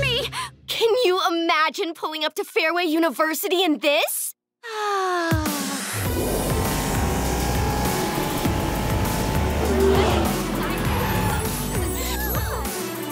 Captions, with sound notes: Can you imagine pulling up to Fairway University in this? [sighing] [distant chattering]